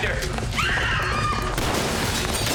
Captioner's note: women scream